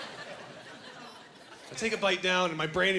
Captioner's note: laughing